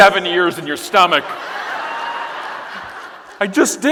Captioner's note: audience laughing